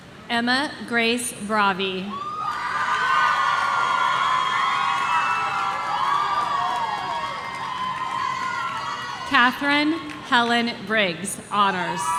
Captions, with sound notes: Emma Grace Brovie. (audience cheering) Catherine Helen Briggs, Honors.